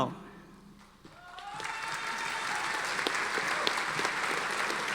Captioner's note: audience applauding